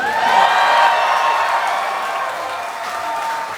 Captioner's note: audience claps